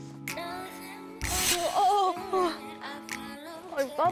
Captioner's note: wind sound effect